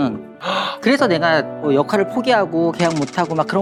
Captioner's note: gasp